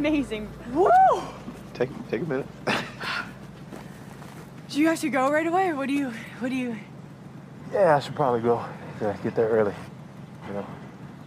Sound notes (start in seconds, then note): 2.9 exhales